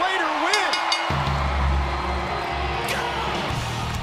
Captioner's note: crowd cheering